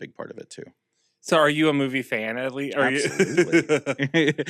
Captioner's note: laughs